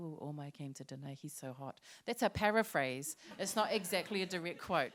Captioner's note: laughter